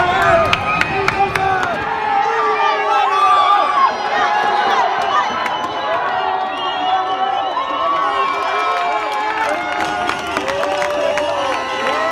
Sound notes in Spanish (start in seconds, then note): 6.3 Gritos de alegría